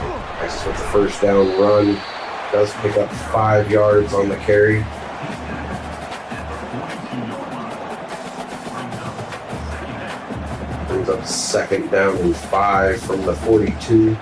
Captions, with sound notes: I said the first down run does pick up five yards on the carry. [Crowd Noises] It was up second down was five from the 42.